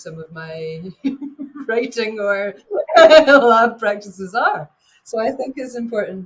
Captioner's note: laughing